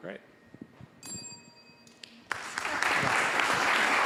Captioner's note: bell dings; applause